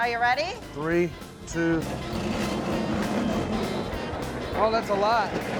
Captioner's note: machine grinding sound